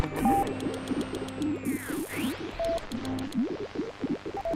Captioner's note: electronic signals